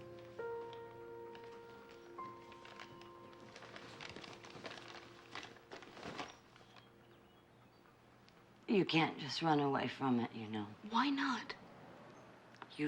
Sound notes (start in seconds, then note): none